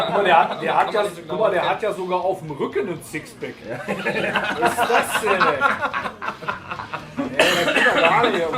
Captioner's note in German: lachen